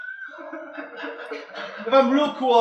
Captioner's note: students laugh